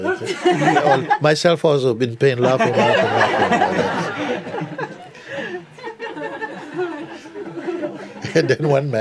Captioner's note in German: Lachen